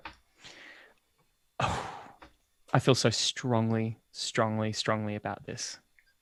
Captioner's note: sighs